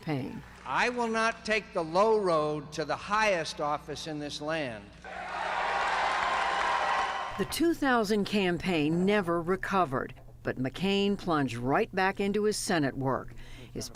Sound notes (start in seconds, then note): 5.0 cheering and applause